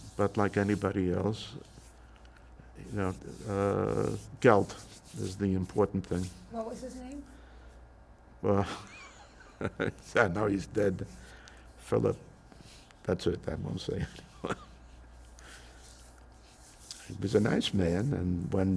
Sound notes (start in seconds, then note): 8.7 laughing; 14.4 laughing